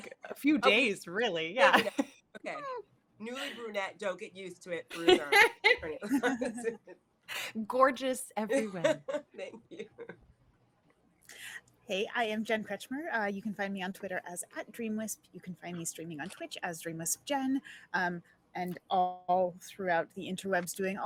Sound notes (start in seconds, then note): 0.0 laughing; 8.5 laughing